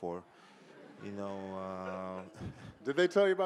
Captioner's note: audience laughing